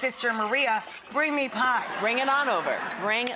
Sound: audience laughs

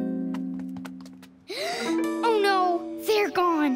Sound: gasps

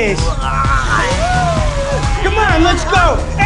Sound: moaning

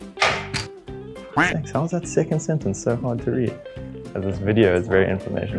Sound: duck Noise

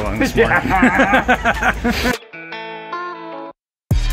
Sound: both laughing

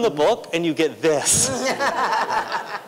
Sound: laughter

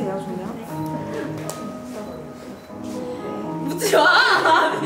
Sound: laughing

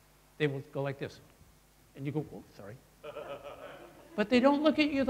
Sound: laughter

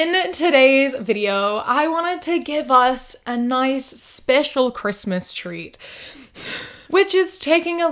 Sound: breathes heavily

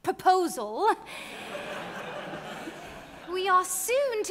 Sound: audience laughing

